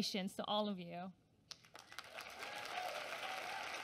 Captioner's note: applause